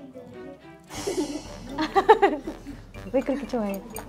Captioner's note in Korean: 멈추지 않는 웃음